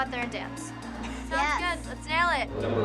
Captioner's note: laughs